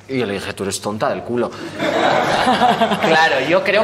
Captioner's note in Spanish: Risas